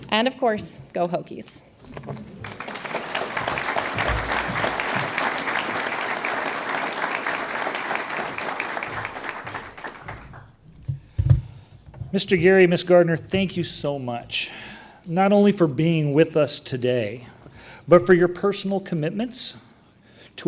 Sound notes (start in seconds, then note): 2.2 audience applauds